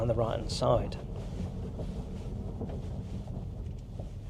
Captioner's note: car humming